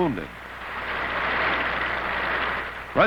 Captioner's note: clapping